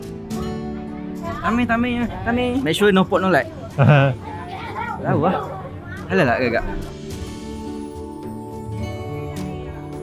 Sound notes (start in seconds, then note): 0.0 background music; 1.4 speaking Vietnamese; 7.5 background music